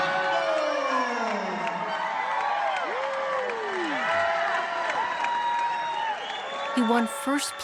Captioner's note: applause/cheers